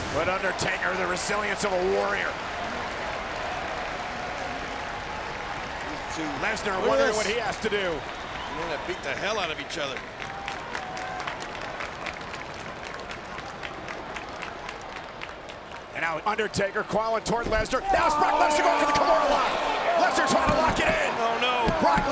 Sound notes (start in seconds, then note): 3.3 crowd clapping; 11.2 crowd clapping